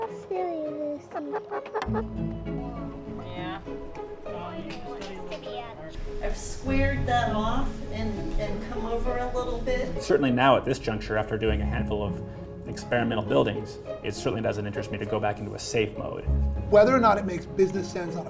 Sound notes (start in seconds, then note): 3.6 indistinct chatter